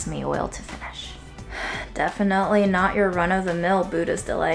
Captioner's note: sighs